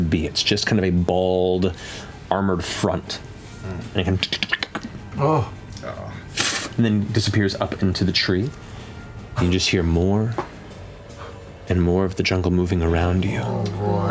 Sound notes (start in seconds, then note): 4.4 insect chitter; 6.3 skittering; 12.6 groaning